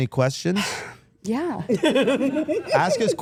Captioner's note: Steph laughing